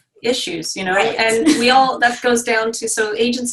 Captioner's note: stammering